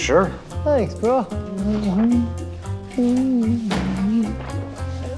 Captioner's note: humming softly